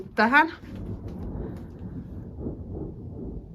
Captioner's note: thunder